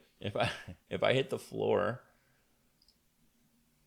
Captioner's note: chuckles